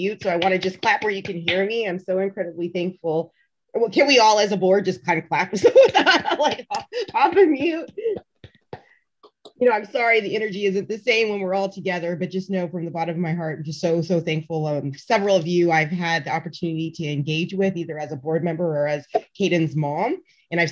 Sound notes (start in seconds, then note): 7.8 claps; 7.8 laughing